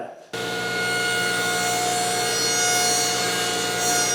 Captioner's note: saw humming